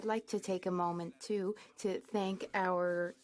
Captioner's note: speaking French